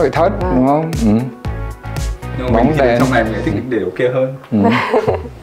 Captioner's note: laugh